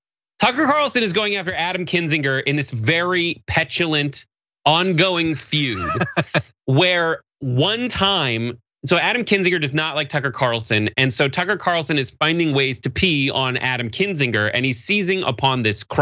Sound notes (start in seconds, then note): 5.3 laugh